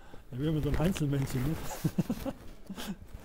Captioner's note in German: Lach